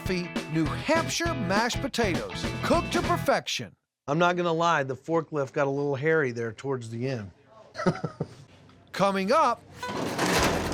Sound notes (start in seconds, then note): 7.7 chuckling